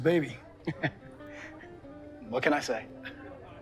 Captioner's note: bartender chuckles